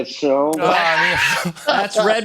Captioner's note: laughter